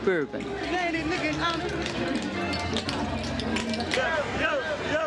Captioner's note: softly chatters